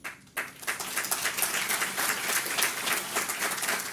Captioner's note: audience applause